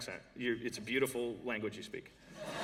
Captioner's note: laughter